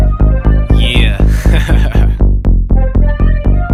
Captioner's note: laughs